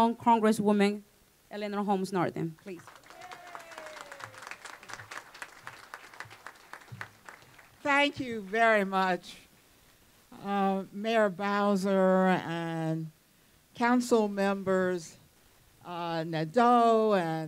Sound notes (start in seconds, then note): 6.1 applause